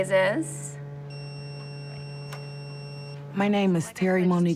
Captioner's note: machine beeps